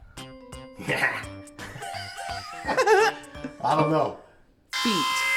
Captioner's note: laughs